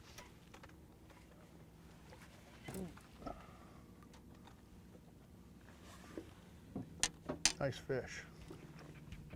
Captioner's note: creaking